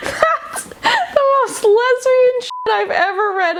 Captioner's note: beeping